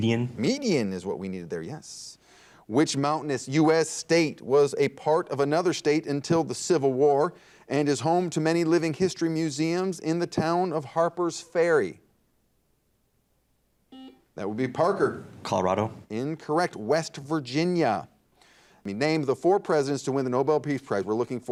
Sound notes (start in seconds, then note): 13.9 buzzer dings